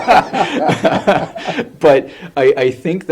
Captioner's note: laughter